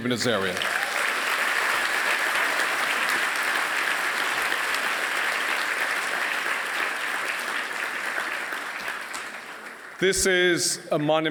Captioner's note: applause